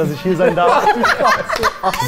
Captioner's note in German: Lachen